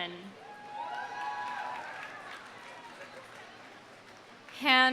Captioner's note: audience cheering; audience applauding